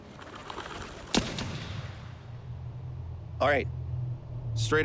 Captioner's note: gunshot